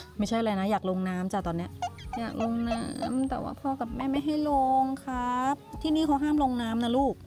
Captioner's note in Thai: เสียงหัวเราะ